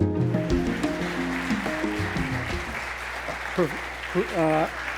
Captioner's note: audience applauding